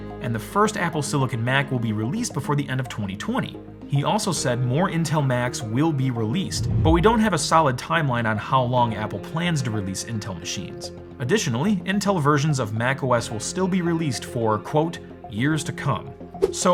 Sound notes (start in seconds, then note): 6.4 air whooshing